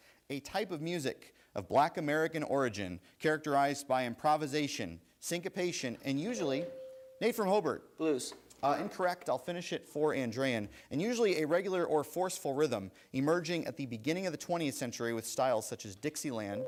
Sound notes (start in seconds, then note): 6.4 bell rings; 16.5 bell rings